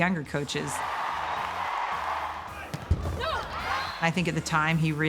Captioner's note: spectators cheering